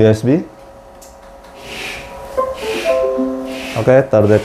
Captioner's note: connected device sound